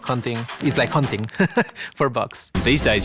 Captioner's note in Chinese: 笑聲